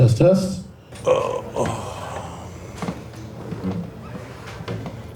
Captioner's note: groans